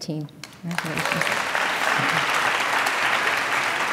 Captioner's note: applause